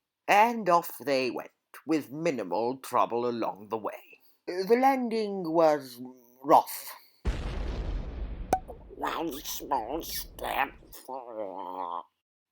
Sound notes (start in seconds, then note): 7.3 bang; 7.3 pop